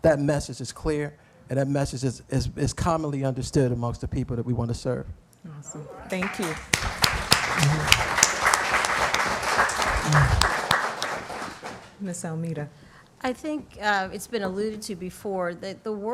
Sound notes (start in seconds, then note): 6.1 applause